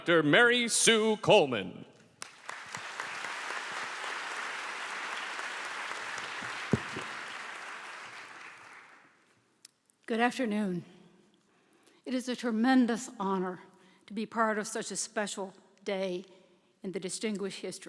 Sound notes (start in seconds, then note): 2.1 applause